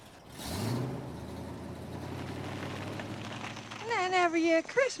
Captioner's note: engine revving